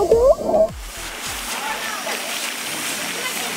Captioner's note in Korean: 터덜터덜